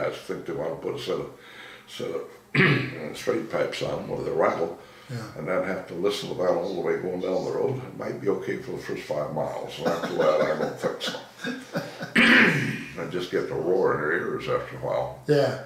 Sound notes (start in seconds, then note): 9.5 laughing